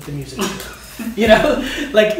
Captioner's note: both laugh